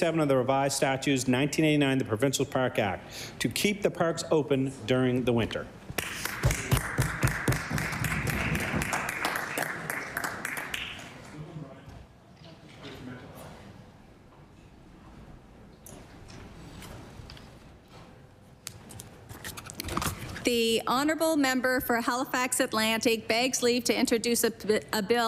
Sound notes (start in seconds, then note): 11.6 some Applause